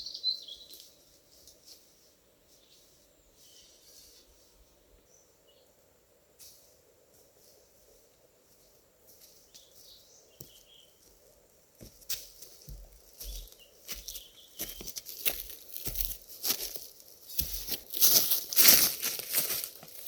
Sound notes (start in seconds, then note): 13.2 birdsong; 18.0 rustling leaves underfoot